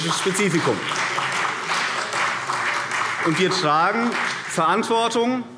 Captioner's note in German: Beifall CDU und BÜNDNIS 90/DIE GRÜNEN